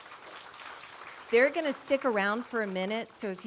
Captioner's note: audience applauding